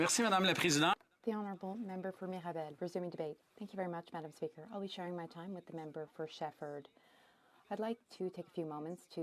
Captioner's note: speaking French